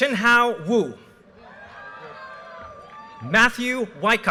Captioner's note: audience cheers and applause